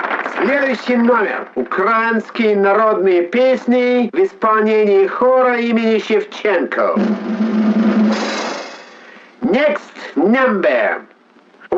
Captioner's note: speaking in Russian language